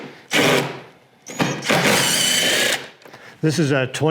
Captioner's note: drill whirring